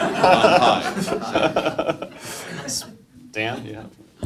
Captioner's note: group laughing